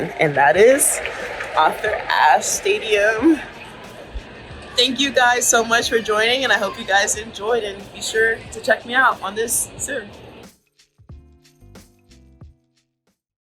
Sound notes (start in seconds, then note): 3.5 crowd talking indistinctly; 10.6 lively music continues